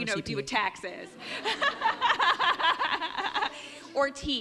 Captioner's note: laughs